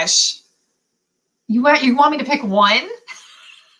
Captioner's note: laughter